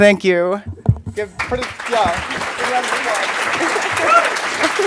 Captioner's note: audience applauds